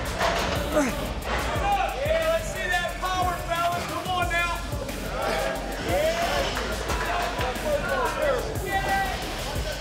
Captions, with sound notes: - Yeah, let's see that power fellas, come on now! (group chatter)